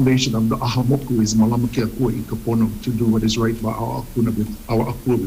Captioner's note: speaks Hawaiian